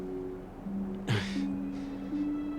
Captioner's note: chuckles